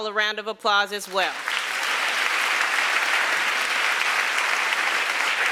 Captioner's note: applause